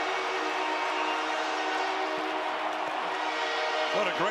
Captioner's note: cheering